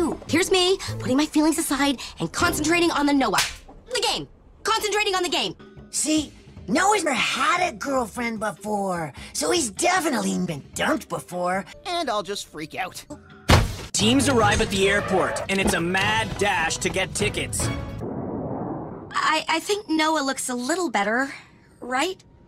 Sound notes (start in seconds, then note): 13.5 thud